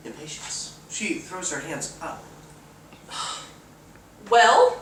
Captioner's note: sigh